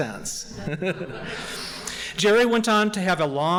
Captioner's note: laughing